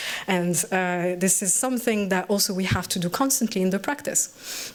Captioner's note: none